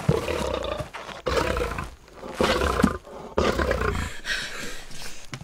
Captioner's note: Growling Stops; Panting; Whimpering